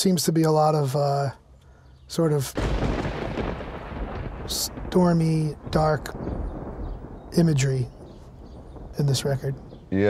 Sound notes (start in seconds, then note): 2.3 thunder rumbling